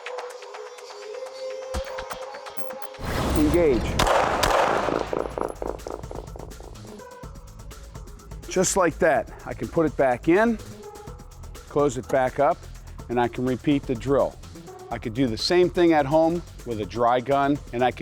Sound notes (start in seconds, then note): 2.9 fires gun